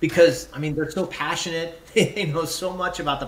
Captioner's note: chuckles